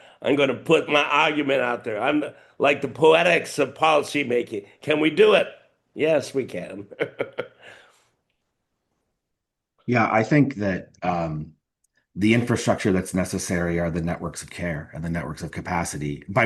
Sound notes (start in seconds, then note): 6.7 laughing